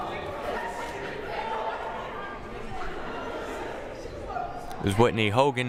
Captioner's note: crowd murmuring